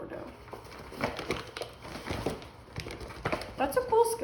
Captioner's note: crinkly bag noises